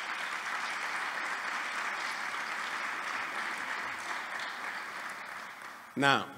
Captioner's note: applause